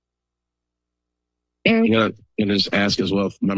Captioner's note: distorted voice